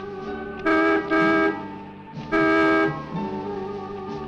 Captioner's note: dramatic music; horn honking